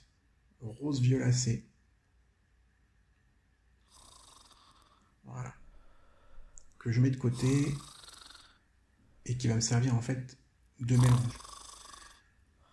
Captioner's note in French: ronflements